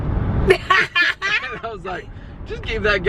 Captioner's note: laughter